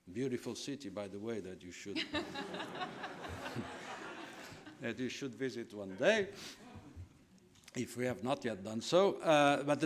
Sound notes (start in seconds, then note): 2.4 laughing